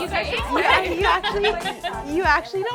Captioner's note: group talking indistinctly